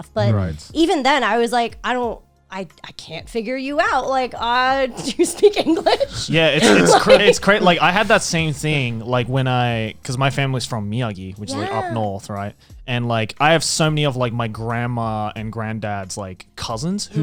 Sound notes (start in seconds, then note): 4.5 laughs